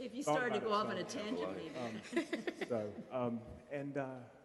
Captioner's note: laughing